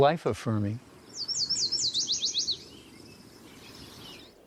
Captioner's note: sweet series of whistled notes